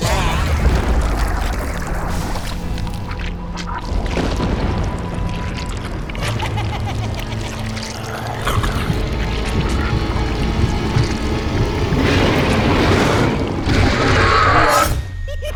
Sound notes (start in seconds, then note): 3.9 characters crawling; 5.8 suspense music; 6.2 evil laughter; 9.3 suspense music; 11.9 characters howling; 15.2 evil laughter